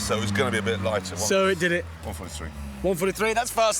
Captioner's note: quietly